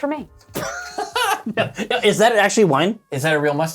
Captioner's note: men laugh